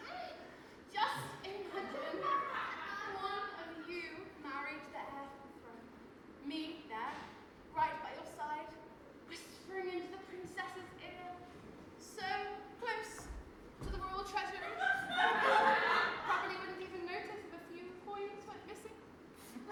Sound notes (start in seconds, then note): 14.6 audience laughs